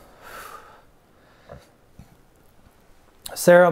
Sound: deep exhale

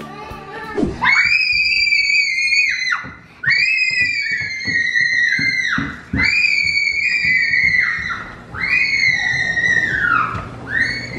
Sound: screaming

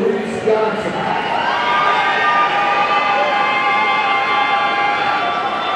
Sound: audience cheering

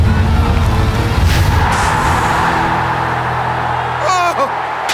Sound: crowd roars

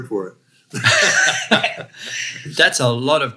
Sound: both laugh loudly

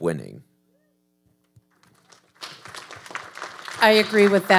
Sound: audience applauding

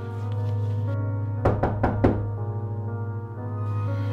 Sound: knocking

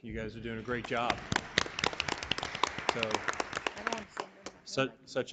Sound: audience applauding

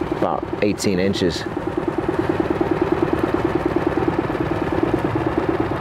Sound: boat engine purring

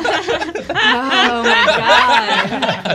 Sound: laughter

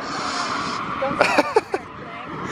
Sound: laughter

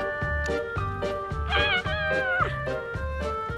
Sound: shrieking

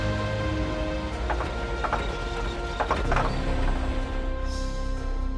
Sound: bus Engine Stalls

